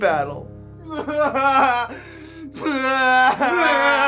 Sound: makes crying sounds

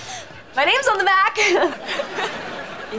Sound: giggling

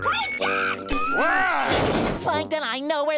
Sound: thudding

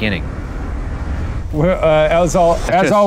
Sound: air whooshing

